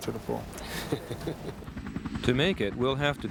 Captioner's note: interviewer laughs